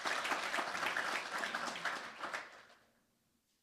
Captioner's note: applause